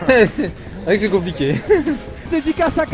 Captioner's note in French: rires